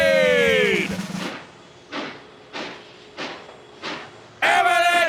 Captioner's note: train slowly chugging